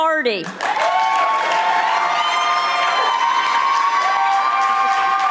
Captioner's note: audience applauding